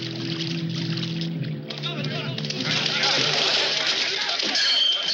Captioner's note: muttering